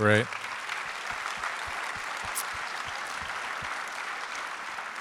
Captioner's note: audience applauds